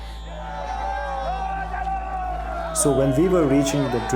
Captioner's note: shouting